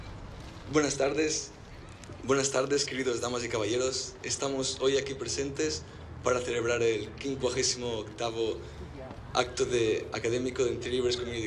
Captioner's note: in Spanish